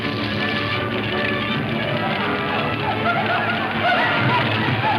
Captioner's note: men chanting